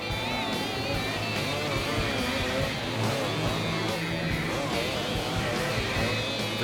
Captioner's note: motorcycles revving; rock music continues